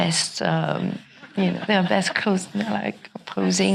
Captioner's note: audience laughing